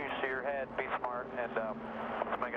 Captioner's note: radio